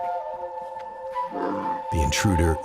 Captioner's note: bear growls